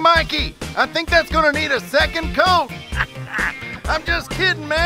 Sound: laughs

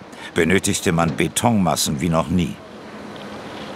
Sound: none

